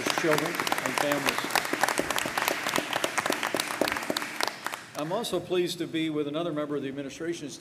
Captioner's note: applause